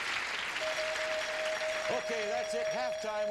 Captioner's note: dinging